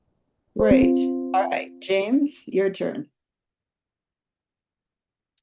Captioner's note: computer notification noise